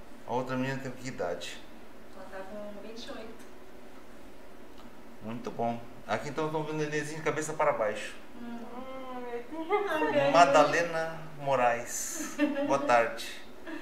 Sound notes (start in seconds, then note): 9.0 laughs